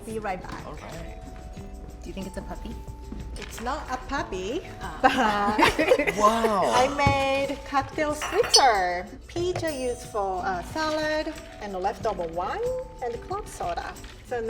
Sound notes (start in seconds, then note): 5.0 laughs